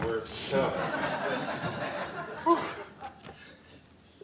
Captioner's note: audience laughing